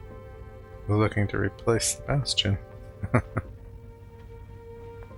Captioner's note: chuckling